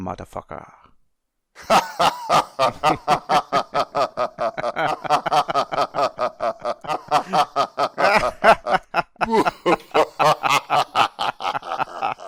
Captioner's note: laughter